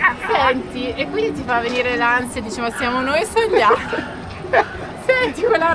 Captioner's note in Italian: risate